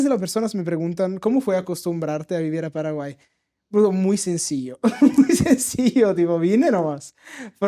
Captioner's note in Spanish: risas